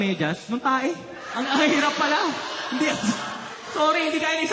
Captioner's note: laughter